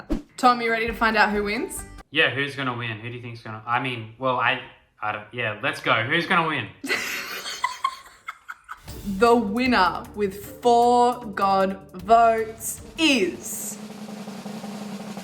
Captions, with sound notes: I give it that. - Tom you ready to find out who wins? - Yeah, who's going to win, who do you think? Well I, yeah, let's go. Who's going to win? (laughing) - The winner with four god votes is